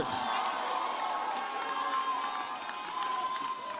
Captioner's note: audience cheers